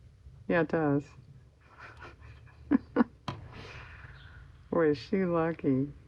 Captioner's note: laughs